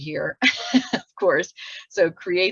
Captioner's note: laughs